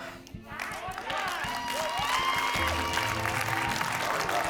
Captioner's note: cheerful music; crowd applauds